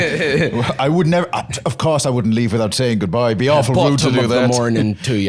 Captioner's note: both laughing; Irish accent